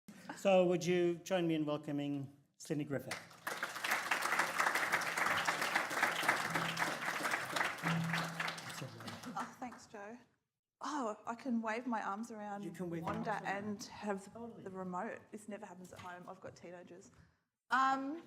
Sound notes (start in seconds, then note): 3.2 audience applauds